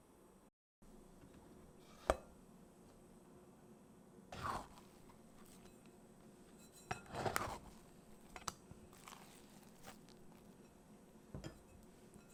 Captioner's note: folding